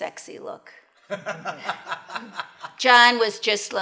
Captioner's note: laughs